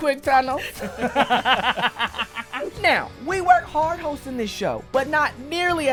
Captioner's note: laughter